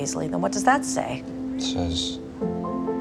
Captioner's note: voiceover